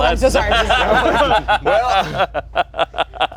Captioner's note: everyone laughs